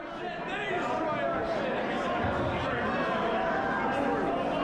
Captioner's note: crowd yelling